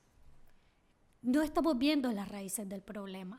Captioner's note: speaking spanish